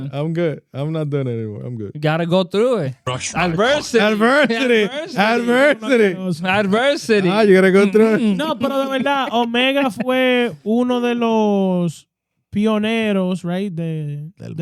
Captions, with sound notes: I'm good, I'm not done anymore, I'm good. Gotta go through it. Adversity. Adversity. Adversity. Adversity. You gotta go through it. (Speaking In Foreign Language) Right there.